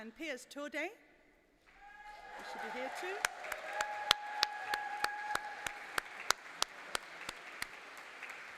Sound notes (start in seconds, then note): 1.7 applause